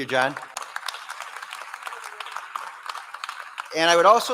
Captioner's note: applause